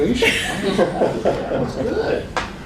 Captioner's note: laughter